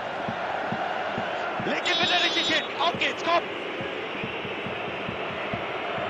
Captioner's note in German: Pfiff